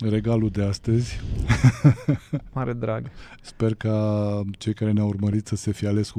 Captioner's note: laughter